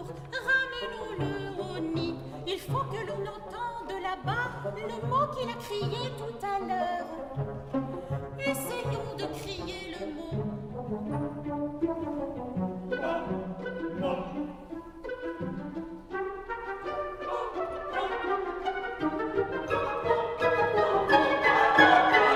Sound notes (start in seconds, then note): 10.5 hesitantly